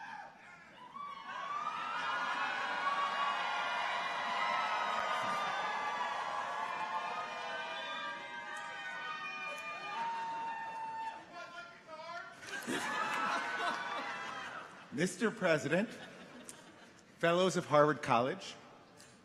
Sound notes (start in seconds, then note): 0.2 people cheer; 7.0 people shouting distantly; 12.4 people chuckle